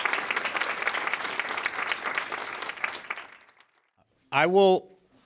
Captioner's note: applause